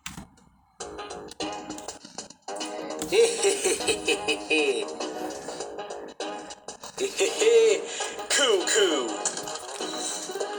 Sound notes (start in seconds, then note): 3.0 weird laughing; 7.0 weird chuckles